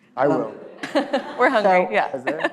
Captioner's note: laughs